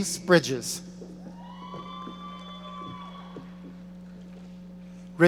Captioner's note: audience cheering